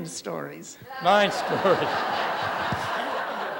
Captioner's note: laughter